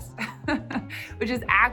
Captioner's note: chuckles